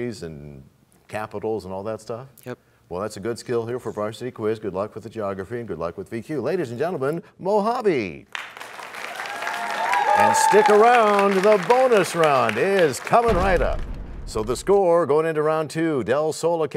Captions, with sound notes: -Just look at countries and capitals and all that stuff? -Yep. -That's a good skill for Varsity Quiz. Good luck with geography, and good luck with VQ. Ladies and gentlemen, Mojave! [cheers and applause] -Stick around. The Bonus Round is coming right up. So the score going into Round 2: